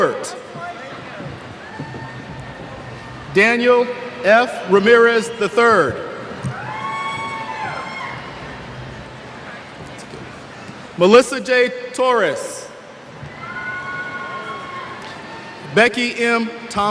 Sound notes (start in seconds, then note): 6.3 cheers